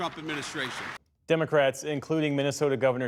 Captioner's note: applause